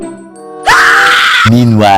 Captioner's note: scream